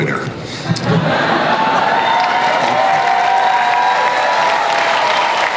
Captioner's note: crowd cheers and applauds